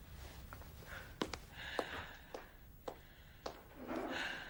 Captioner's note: footsteps fade